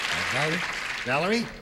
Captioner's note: applause